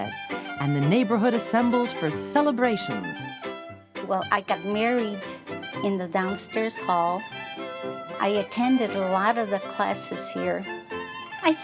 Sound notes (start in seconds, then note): none